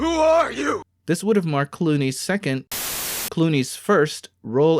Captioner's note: static